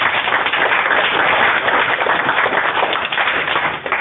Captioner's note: applause